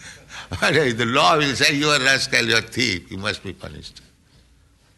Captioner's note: laughing